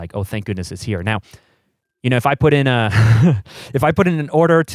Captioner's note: laughs